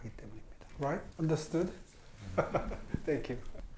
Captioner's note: laughs